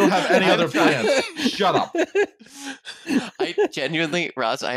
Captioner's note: laughing; laughs